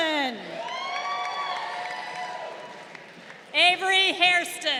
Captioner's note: crowd cheering